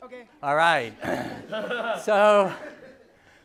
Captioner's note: laughter